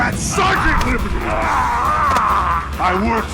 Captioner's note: groaning